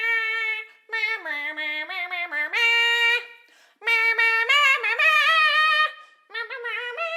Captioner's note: more humming; still humming